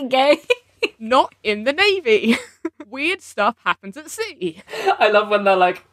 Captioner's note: laughing